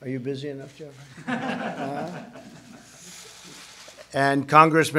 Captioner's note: laughter